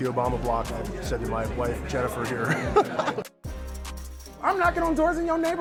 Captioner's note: laughs